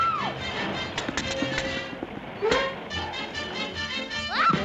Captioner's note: Olive screams; horn honks; parcels thudding; upbeat jazz music continues